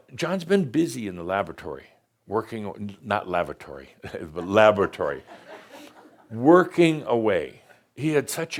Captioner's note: a few chuckles